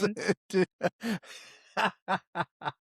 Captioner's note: laughs